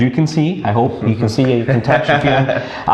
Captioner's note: laughs